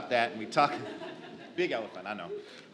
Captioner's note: audience laughs